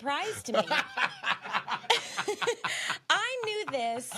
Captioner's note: laughing